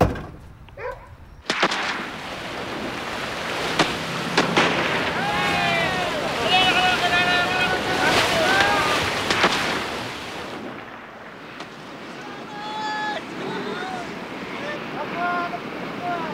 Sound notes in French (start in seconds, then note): 1.8 Coups de fusil